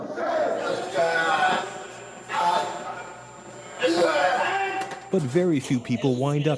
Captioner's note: chanting in foreign language